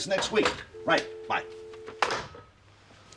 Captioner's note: phone line dies